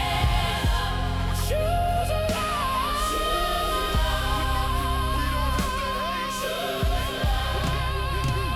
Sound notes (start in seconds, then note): 0.0 explosion